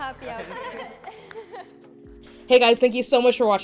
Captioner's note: women laugh